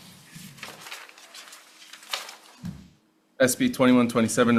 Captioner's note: page whirring